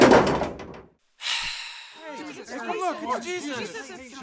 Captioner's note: Jesus sighs